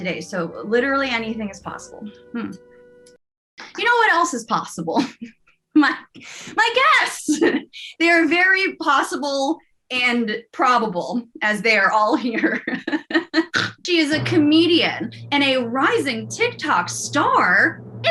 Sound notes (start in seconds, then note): 2.1 chuckles; 3.0 whispers; 5.0 chuckles; 12.2 laughs